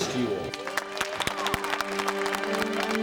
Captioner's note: applause